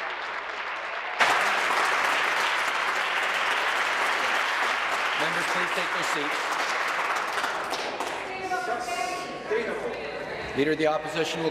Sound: applause

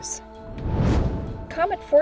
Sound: whoosh

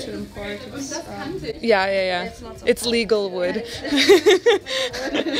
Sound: laughs

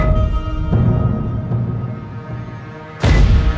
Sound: rumbling echo

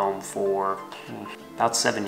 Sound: puffs lips

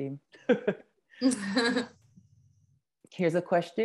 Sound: laugh

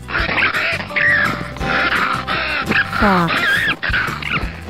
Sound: fox sound

